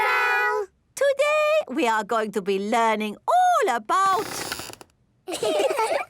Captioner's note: squeaks; laughing